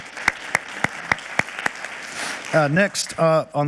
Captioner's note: audience clapping